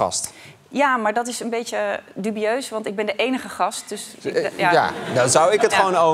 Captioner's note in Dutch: gelach